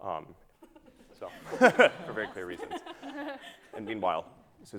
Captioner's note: laughing